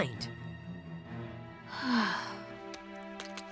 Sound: sighing

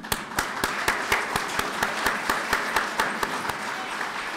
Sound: clapping

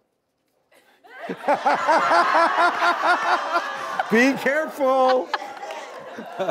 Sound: laughter

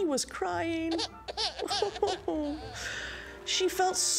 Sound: baby crying

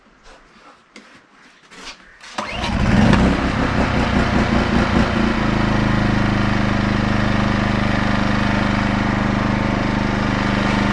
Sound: engine noise

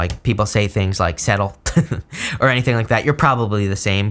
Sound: chuckling

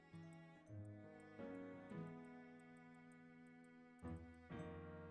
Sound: intensified cursing

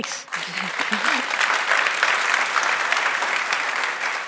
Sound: applause

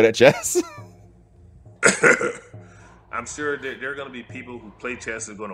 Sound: laugh

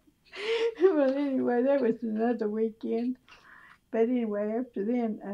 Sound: laughs

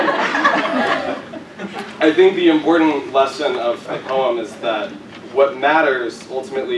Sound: laugh

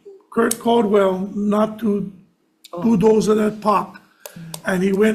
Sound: speaking Hawaiian

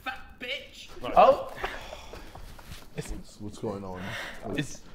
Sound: Tobi laughing

